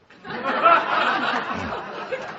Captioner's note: laughter